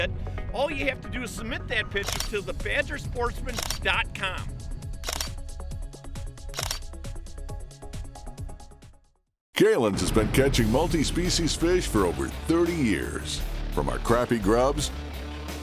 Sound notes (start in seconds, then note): 4.8 camera shutter; 9.8 voiceover